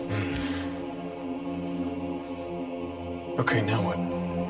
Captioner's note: Trapper grunts